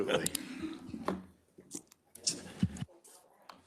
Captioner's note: members laughs